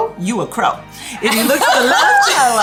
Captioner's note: women laughing